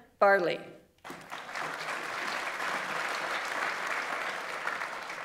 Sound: audience applauds

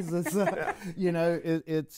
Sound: chuckles

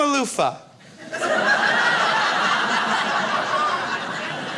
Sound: crowd laughs

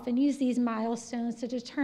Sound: none

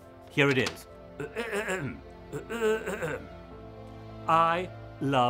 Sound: clears throat

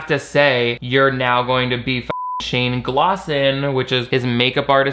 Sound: beep

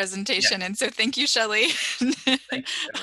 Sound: laughter

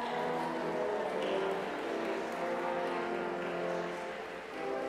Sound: cheers and applause

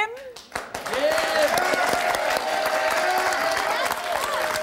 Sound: audience applauding

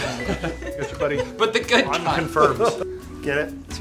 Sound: laughter

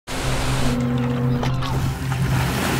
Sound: water splashing; boat horn blaring

